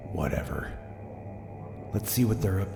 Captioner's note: sighing and whispering